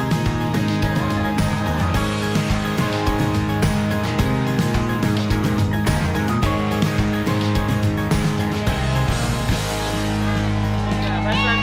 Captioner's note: cheering